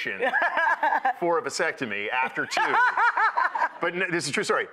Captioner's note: laughing; laughing